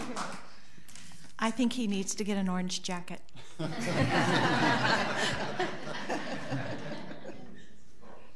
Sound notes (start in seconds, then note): 3.5 all laughing